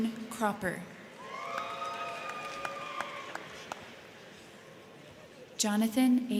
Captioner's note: crowd cheering; crowd clapping